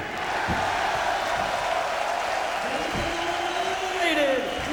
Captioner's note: audience cheering